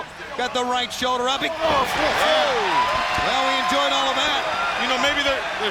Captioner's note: fans cheering